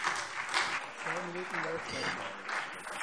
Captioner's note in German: Beifall SPD